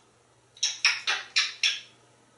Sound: kisses

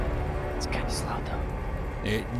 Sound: whispers

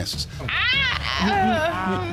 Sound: groans dramatically

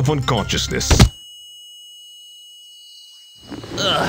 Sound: guns thudding; buzzing

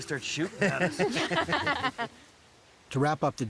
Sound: laughing

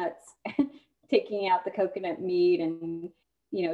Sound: laughter

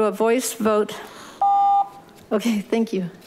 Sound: beeping

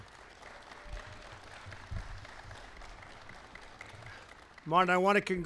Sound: applause

